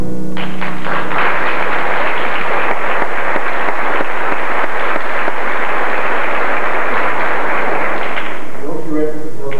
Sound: applause

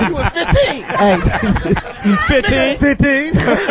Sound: all laugh; laughs

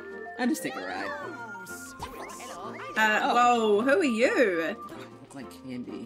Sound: none

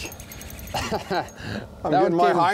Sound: laughs

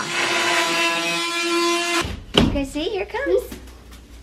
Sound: saw buzzing

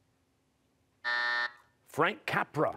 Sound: buzzer

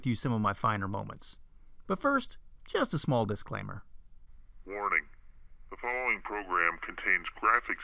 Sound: deep voice

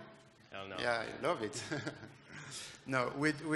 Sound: laughs

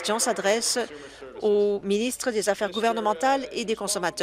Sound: applause

